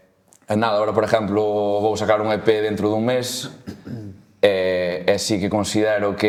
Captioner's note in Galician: carraspeira